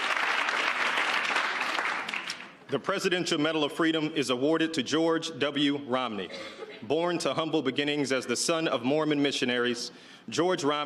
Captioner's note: cheers and applause